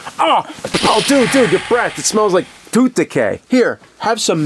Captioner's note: Pepsiman hisses